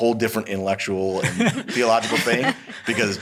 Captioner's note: laughs